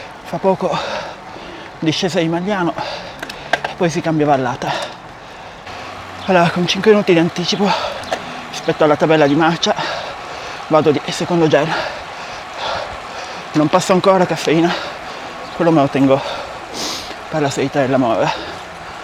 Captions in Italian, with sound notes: Fra poco discesa di Magliano e poi si cambia vallata. Allora, con 5 minuti di anticipo rispetto alla tabella di marcia vado di secondo gel. Non passo ancora caffeina, quello me lo tengo per [sbuffare] la salita della morra